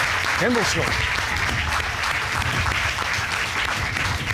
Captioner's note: applause